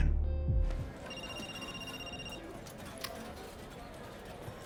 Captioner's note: telephone ringing